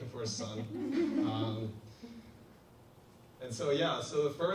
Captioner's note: audience laughs